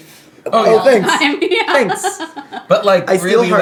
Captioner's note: laughing